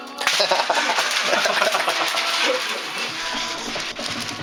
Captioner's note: both laugh